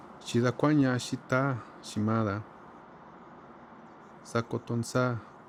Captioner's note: man speaking foreign language